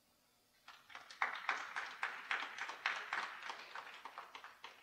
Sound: audience applauding

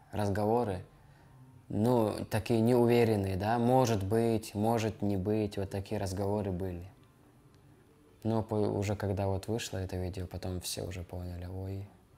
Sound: speaking russian

